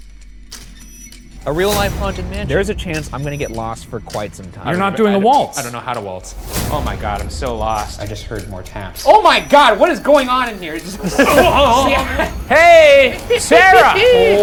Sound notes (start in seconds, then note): 11.2 imitates drowning; 13.4 laughing